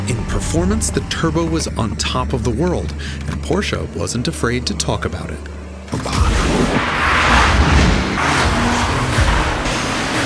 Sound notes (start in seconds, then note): 6.7 engines revving